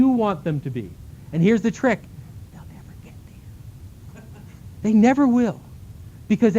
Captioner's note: whispering